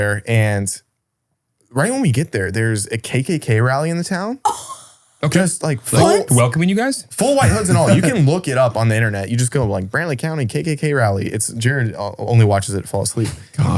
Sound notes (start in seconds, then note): 4.4 gasps